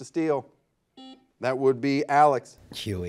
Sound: buzzer buzzes

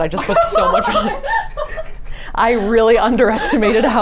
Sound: the group laughs loudly

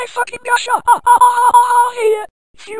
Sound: Silver screaming

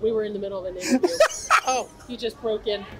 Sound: laughs

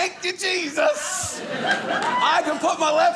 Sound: audience laughing

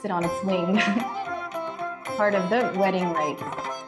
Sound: laughter

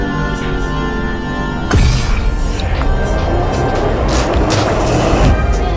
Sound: ominous whooshing

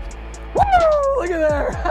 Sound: laughs

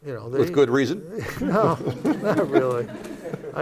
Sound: laughter

